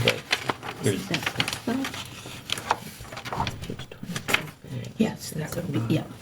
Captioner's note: speaking faintly